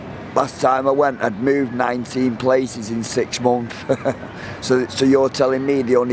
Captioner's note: chuckles